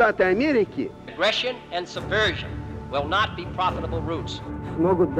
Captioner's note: John Fitzgerald Kennedy speaking